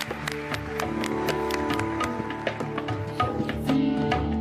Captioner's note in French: applaudissements